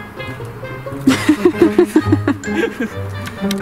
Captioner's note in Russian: смех